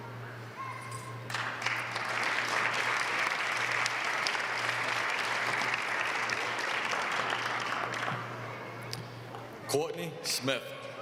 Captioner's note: applause